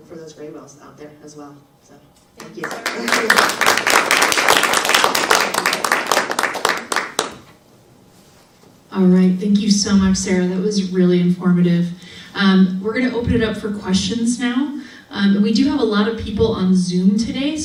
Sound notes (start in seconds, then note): 2.4 audience applause